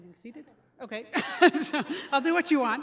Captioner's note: laughter